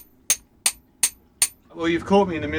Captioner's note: metallic tinking